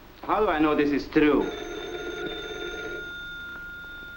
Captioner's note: phone rings